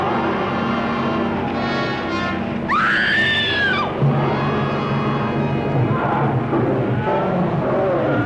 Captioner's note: creature roaring; screaming